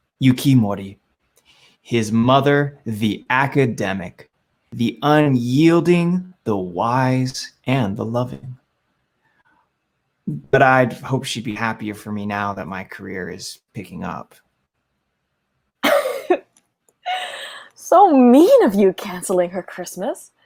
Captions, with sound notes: Yuki Mori, his mother the academic. The unyielding, the wise, and the loving. "But I hoped she’d be happier for me now that my career is picking up." [laughs] "So mean of you, cancelling her Christmas,"